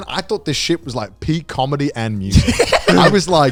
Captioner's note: laughing